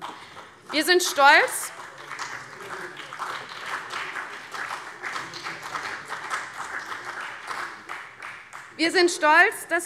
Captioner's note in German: Beifall BÜNDNIS 90/DIE GRÜNEN und CDU